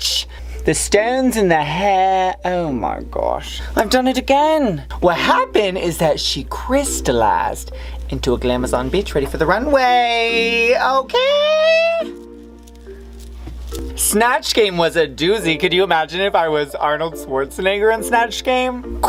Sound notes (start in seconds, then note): 0.4 in an accent; 5.1 in a different accent